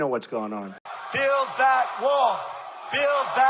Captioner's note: crowd cheering